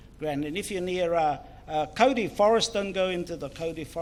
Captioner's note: foreign Language